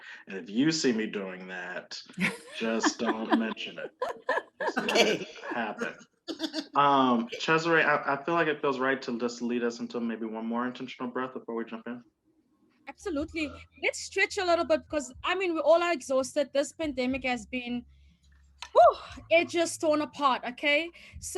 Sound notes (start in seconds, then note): 6.7 all laughing